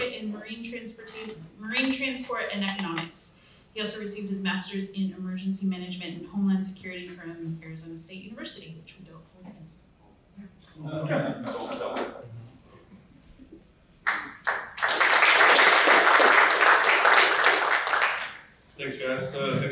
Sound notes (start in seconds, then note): 10.8 applause